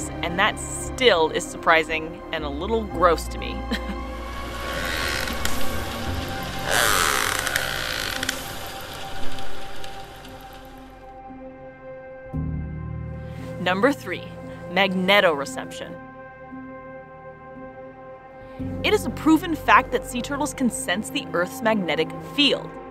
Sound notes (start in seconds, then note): 3.8 instrumental background music; 4.5 toothed whale echolocation vocalizations; 10.3 instrumental background music; 16.0 instrumental background music; 22.7 instrumental background music